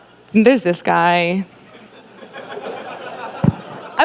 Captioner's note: laughter